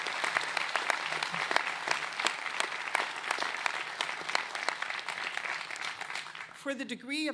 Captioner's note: applause